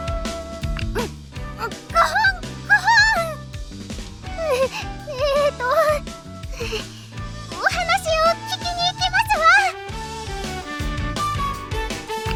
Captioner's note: cough; cought